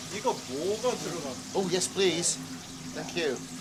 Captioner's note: chef speaking Korean